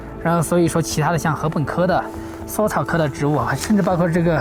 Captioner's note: speaking Chinese